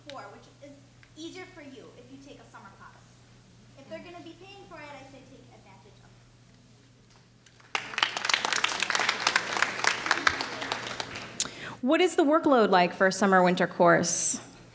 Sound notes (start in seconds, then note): 7.5 clapping